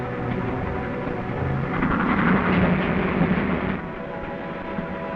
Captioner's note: train chugging